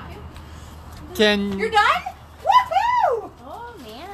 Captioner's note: cheers